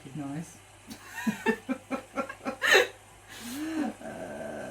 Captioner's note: laughing